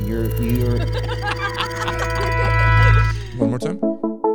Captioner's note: adult and child laugh